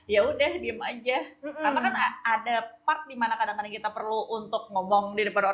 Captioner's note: laughs